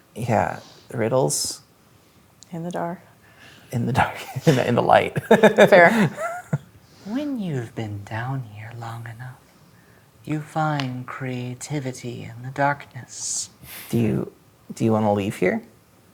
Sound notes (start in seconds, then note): 4.1 laughing; 5.0 chuckles